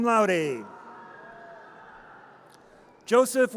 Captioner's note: audience cheers